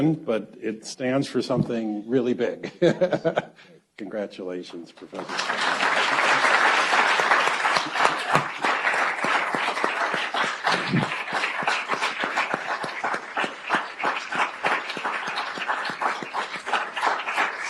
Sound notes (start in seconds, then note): 6.5 audience applauds